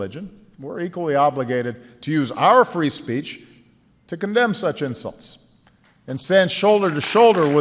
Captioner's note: applause